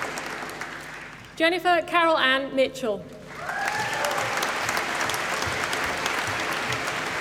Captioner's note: applause